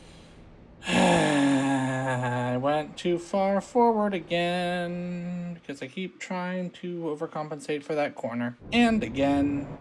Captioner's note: sigh